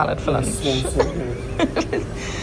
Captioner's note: laughing